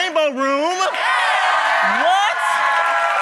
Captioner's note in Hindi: ताली